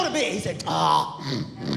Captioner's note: snoring